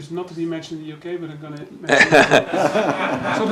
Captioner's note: laughter